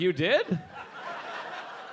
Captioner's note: audience laughing